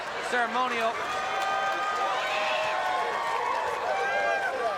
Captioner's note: audience cheers